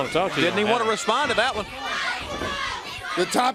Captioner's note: crowd cheering